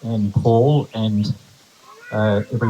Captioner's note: applause